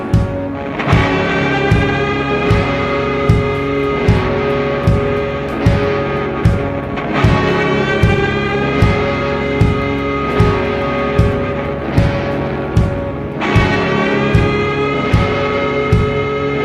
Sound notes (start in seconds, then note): none